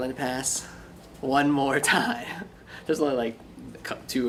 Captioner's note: laughs